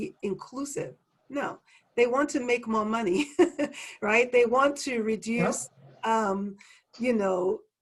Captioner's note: laugh